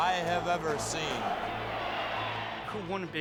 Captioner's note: applause